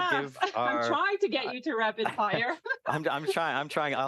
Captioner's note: laughs